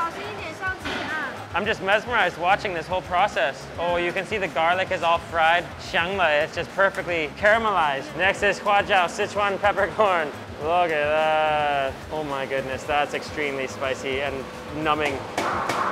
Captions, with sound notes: (worker speaks in Mandarin) - I'm just mesmerized watching this whole process. Oh, you can see the garlic is all fried (speaks Mandarin). It's just perfectly caramelized. Next is (speaks Mandarin) Sichuan peppercorn. Look at that. Oh my goodness. That's extremely spicy and numbing.